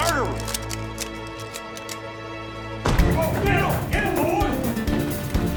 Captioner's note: tense music; guns cocking